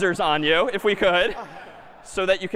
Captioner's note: laughter